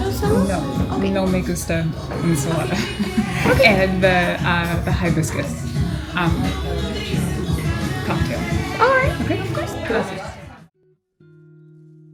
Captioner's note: Spanish